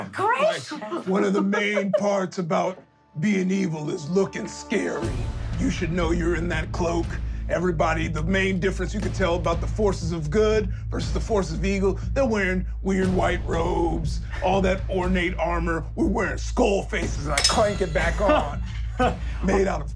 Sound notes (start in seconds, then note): 5.1 dramatic music; 17.3 metallic clinking